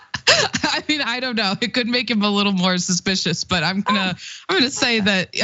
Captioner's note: laugh